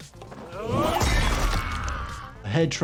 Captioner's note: characters groan, weapon slashes